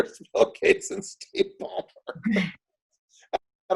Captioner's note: laughs